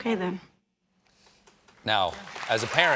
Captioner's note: applause